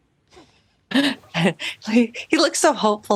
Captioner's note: chuckles